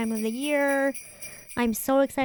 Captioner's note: jingle bells ringing